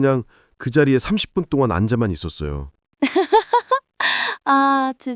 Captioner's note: chuckles